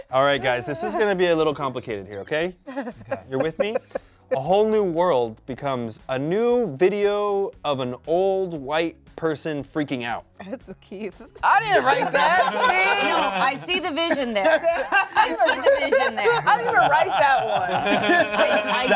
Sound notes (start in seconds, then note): 2.7 laughs; 12.9 cast laughs